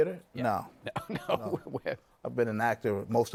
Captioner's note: laughing